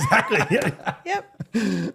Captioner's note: both laughing